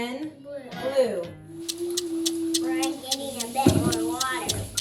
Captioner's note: clock Ticking